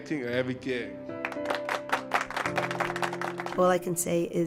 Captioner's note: applause